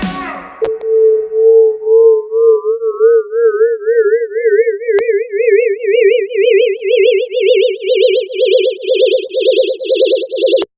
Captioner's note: oscillating tone that increases in pitch